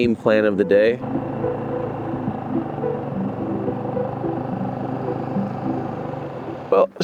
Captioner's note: boat motor hums; suspenseful music